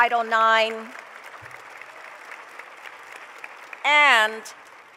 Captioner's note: applause